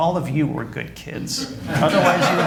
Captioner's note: laughter